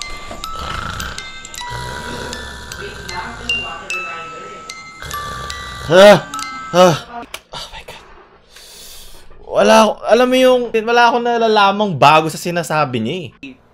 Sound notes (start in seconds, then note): 0.0 snores; 6.9 whispers